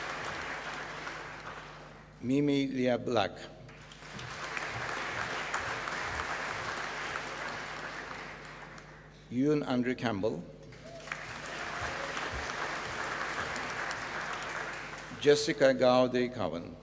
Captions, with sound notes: Mimi Leah Black. (APPLAUSE) Euan Andrew Campbell. (APPLAUSE) Jessica Gaudi Cowen.